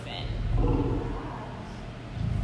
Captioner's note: lion growl